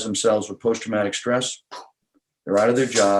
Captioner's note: air blowing